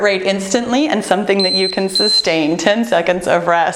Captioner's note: timer beeping